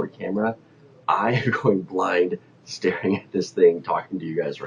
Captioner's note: laughs